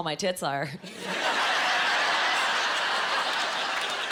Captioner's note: laughing